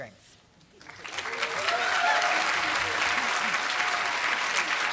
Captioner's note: applause